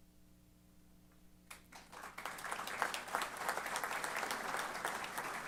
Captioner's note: applause